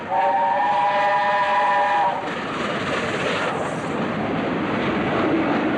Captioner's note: train horn; train passes